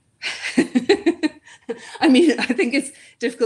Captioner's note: laughs